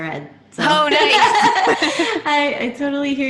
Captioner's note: laughs